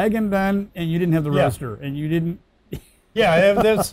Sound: laughs

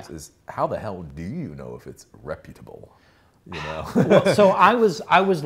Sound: laughs

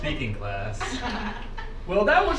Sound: students laughing

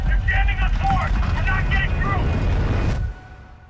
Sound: radio

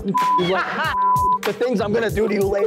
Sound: beep

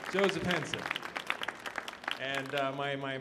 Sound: audience applauding

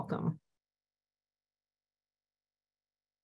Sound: silence

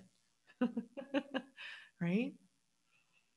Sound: laughs

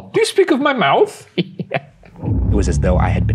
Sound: chuckling

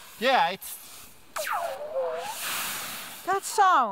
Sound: alien Like sounds

